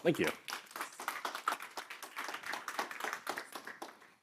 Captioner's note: audience applauds